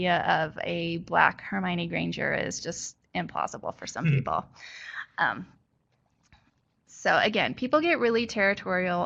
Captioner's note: chuckle